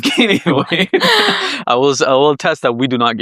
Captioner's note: laughs